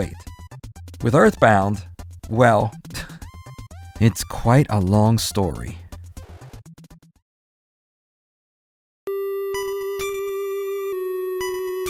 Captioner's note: slight chuckle… deep breath